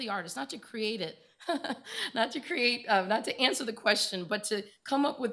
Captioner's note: laughs